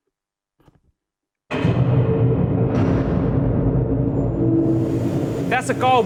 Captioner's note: industrial ambience